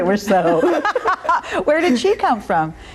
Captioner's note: both laugh